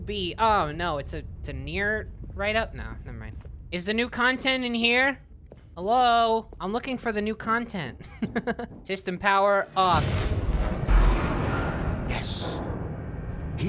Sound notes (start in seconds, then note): 8.1 chuckles; 10.0 powering down